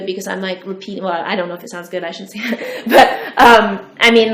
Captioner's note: laughs